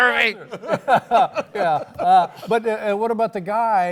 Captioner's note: laughs